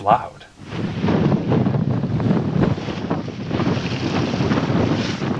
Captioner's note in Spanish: viento fuerte